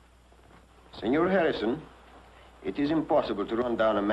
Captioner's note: spanish accent